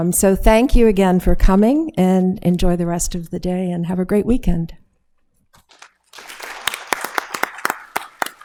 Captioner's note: applause